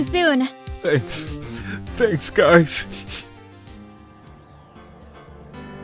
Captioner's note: sniff